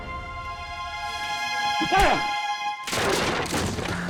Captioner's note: punch, grunts; table breaks